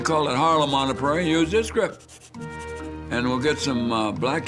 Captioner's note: pencil scribbling